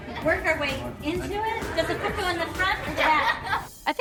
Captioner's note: laughs